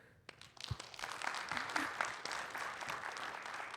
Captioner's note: audience applauding